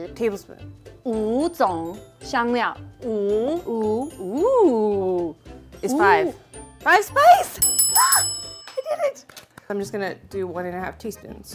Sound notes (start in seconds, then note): 0.0 speaking in mandarin; 7.5 bell ringing